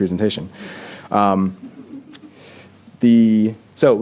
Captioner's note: laughter